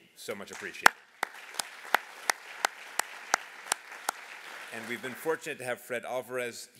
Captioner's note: applause